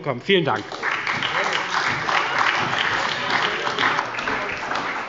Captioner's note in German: Heiterkeit und Beifall bei der SPD und bei Abgeordneten der LINKEN